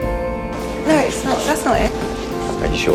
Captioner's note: voiceover